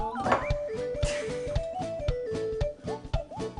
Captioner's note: laughs